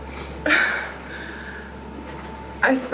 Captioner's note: sniffing; exhales